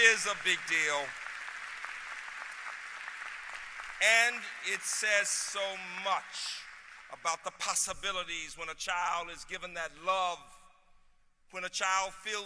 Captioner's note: applause